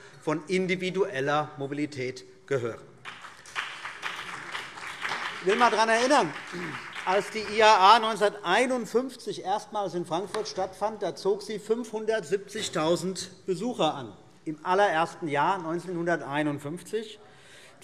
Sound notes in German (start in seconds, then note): 3.0 Beifall BÜNDNIS 90/DIE GRÜNEN